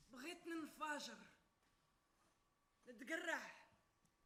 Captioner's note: woman speaks Arabic